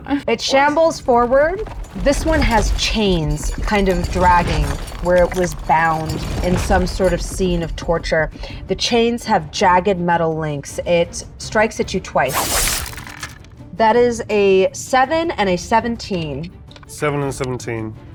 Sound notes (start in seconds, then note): 12.4 dice clanks